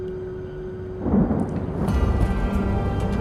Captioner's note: distant rumbling